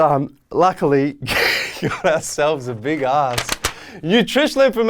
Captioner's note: laughs